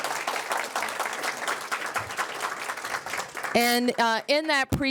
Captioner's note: applause